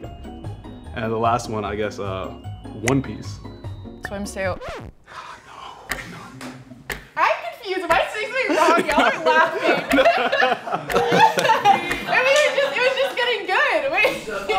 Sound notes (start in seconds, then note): 8.2 guys laugh; 10.0 laughing; 10.0 laughs